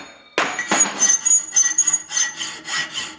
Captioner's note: high-pitched squeaking